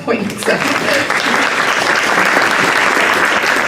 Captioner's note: applause